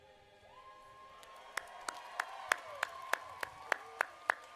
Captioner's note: audience cheering